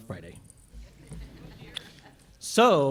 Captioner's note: laughter